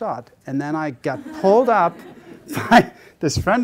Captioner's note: audience laughter